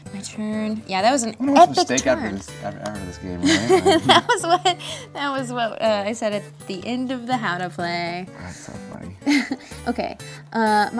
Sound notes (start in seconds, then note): 3.4 laughs